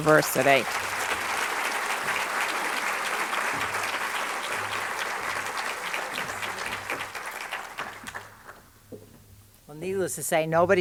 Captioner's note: applause